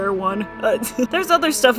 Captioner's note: giggles